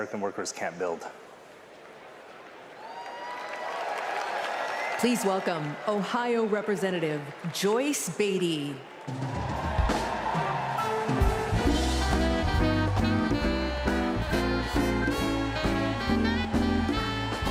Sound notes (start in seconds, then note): 7.5 applause; 15.7 applause